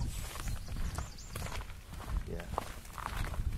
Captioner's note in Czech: Zvuky kroků